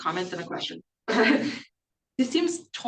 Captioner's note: laughs